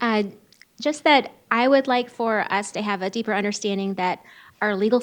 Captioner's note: none